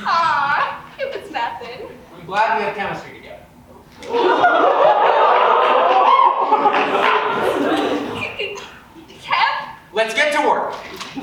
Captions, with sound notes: Aww It was nothin' I'm glad we have Chemistry together (audience ohhs and laughs) (stammers) C-c-c-chem--? Let's get to work